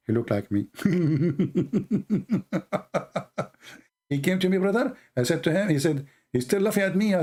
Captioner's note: Ketawa